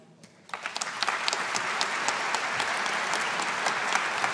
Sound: audience applauding

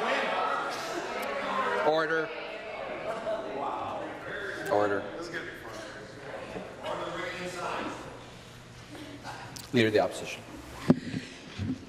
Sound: conversation din

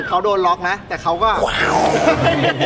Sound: shouts

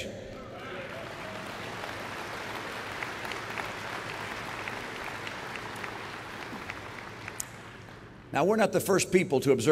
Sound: applause

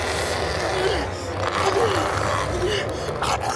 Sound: snarling

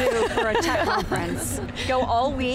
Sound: laughing

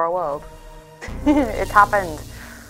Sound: laughing

